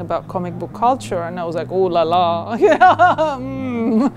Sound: laughs

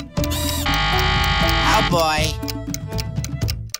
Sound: buzzing

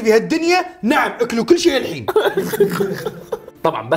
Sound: laughs

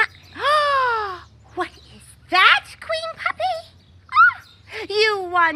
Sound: gasps

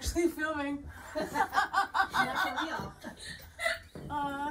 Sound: laughter

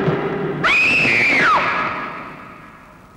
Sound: screaming

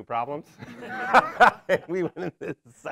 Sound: laughing

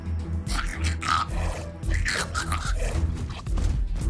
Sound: chittering continues

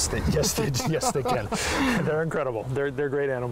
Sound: laughing

